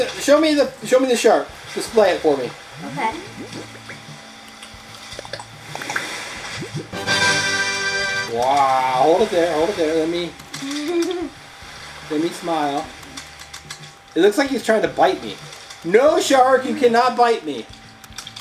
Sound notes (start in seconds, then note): 7.0 triumphant horn noise; 10.7 laughing